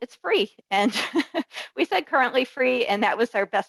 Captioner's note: laughs